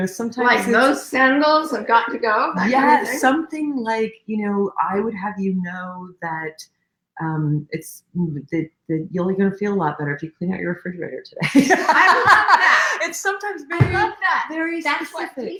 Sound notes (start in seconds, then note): 11.5 laughing